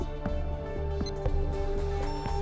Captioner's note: computer beeping